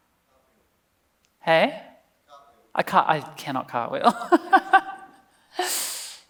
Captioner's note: laughs